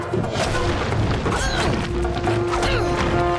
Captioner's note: grunting